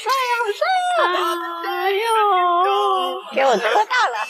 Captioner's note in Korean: 웃음